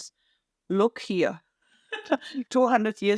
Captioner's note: laughs